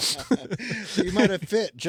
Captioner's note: laughing